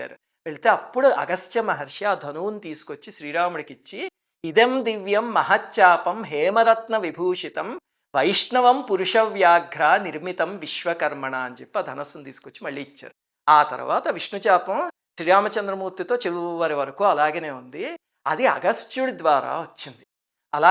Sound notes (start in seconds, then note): 4.3 reciting a verse